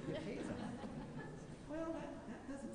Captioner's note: laughing